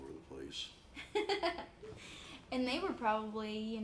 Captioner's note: laughs